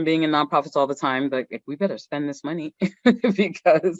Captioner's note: chuckles